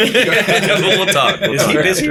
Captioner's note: laughter